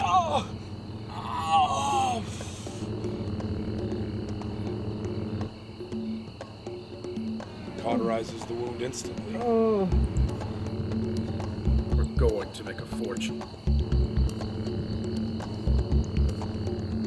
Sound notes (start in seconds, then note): 0.0 groans; 9.3 groans